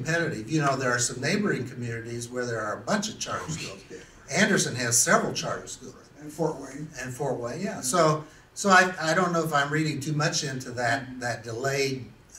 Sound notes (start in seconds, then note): 3.3 laughs to self